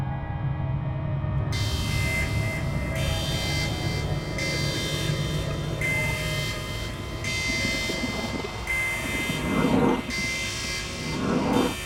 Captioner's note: alarm sound